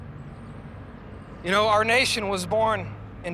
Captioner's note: none